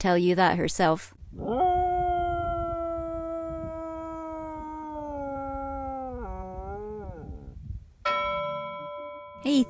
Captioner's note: howls